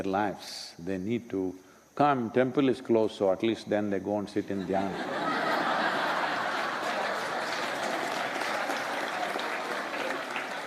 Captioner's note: laughter/Applause